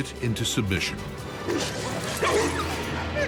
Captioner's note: Cerberus barking; Cerberus whimpers